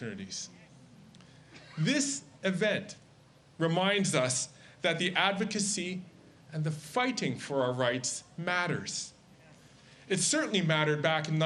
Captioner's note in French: Voix en Anglais